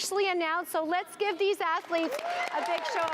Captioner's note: applause